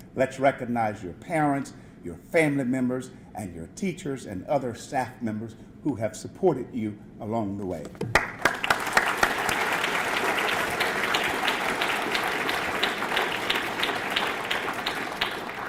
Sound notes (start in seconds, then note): 8.0 audience clapping